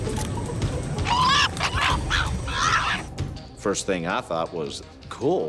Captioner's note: chimpanzee chattering